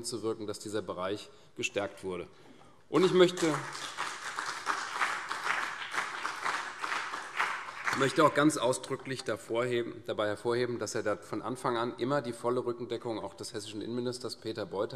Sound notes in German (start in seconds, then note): 2.9 Beifall CDU